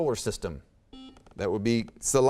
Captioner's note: beeping